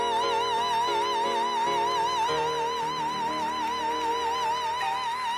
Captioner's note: applause